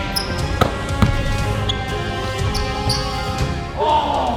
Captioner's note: upbeat orchestral music; ball bounces